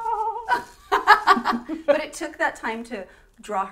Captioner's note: laughter